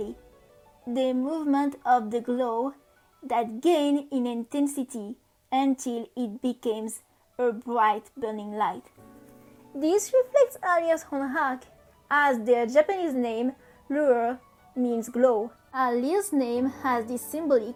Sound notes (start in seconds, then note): 14.2 in french